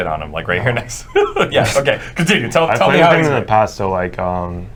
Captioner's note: laughs